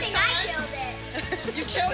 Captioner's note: chuckles